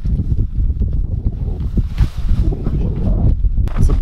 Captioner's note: rustling of fabric sound